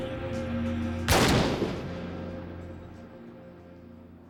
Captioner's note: ominous orchestral music; gun firing